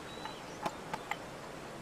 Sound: tapping

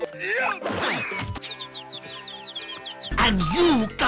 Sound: birds tweeting and cuckooing

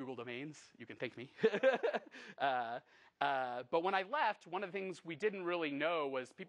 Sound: laughs

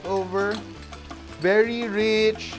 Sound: sizzle; clang

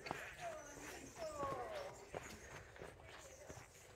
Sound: footsteps and birdsong

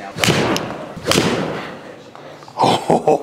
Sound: ball thuds; laughs

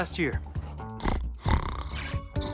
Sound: snoring

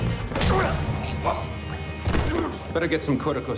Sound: action music plays; man grunts

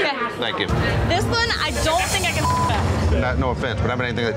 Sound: beep

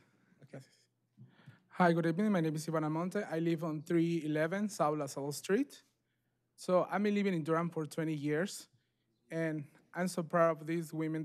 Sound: speaking spanish

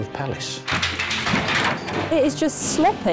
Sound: clangs, clatters

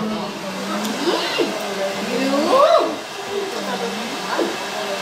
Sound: conversing in Eggle language

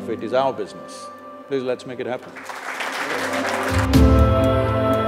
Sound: applause

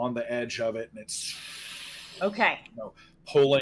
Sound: blows air

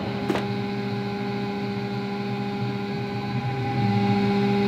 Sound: machine whines

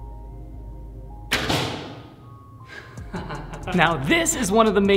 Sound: arrow thud

